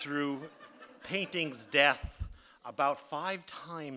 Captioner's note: audience laughing